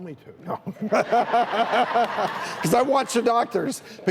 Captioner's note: laughter